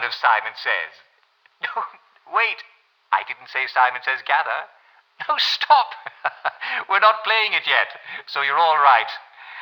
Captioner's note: chuckles